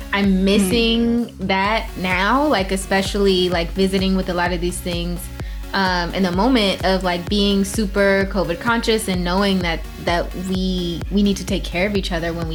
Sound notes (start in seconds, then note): none